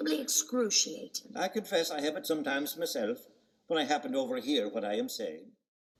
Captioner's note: In Dan's voice